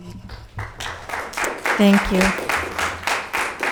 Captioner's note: audience clapping